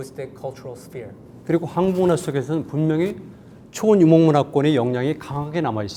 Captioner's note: speaking in Korean